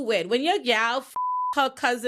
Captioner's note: beep